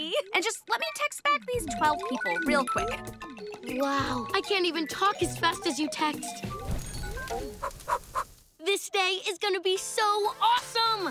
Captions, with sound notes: And just let me text back these 12 people real quick. Wow. I can't even talk as fast as you text. [blowing] This day is going to be so awesome.